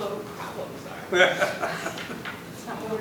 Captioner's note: laughter